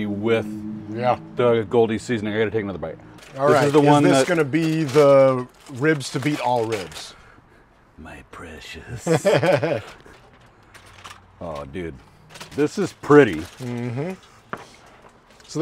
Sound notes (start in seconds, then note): 8.9 laughing